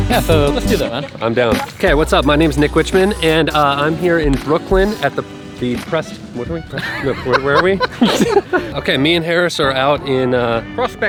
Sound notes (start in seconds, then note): 6.7 laughing; 6.8 murmurs